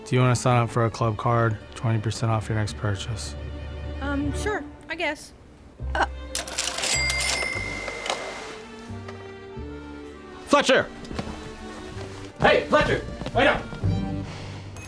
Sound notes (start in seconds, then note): 6.3 cashier drawer rings; 13.1 running footsteps